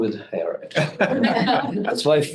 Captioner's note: group laughing